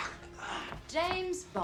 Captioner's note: heavy breathing; footsteps